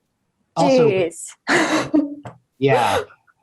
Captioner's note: laughing